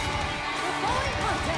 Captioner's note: bell